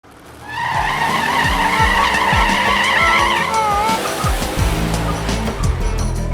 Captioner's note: engine revving